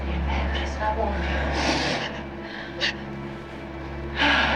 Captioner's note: gasping